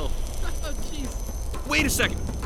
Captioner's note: chuckles; chuckling off screen